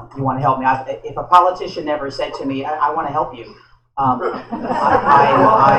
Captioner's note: laughter